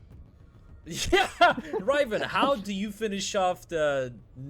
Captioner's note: laughs